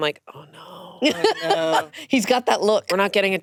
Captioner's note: laughing